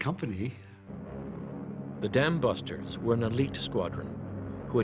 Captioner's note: voiceover